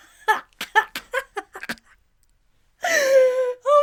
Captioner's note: laughing